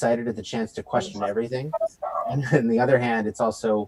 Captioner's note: interruption in mic